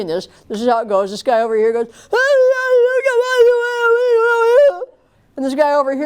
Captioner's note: crying, gibberish